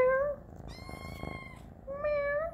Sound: meew

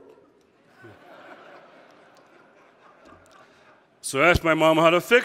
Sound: audience laughing

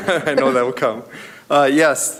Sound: laughs

